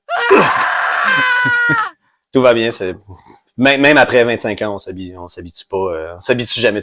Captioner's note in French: Cris de souffrance